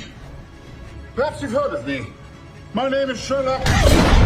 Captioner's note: explosion